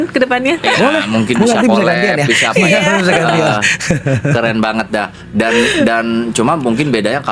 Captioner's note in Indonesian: tertawa